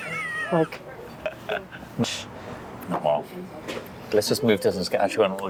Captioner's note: laughing